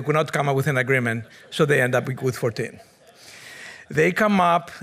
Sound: audience members chuckle

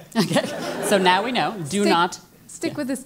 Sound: laugh

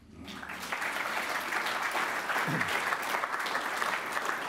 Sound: applause

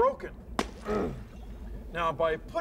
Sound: <i> pottery breaking</i>

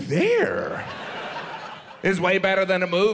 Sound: audience laughs

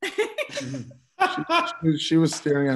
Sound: laughing

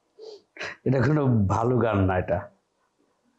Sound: laughter

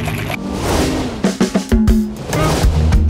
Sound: transition whooshing; bright music; transition whooshing

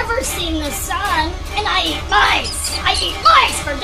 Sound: mice squeaking in anguish

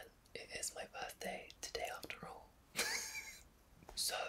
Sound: laughs

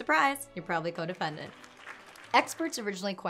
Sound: audience clapping

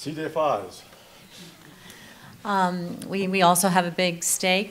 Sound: murmurs

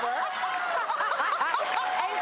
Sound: laughing

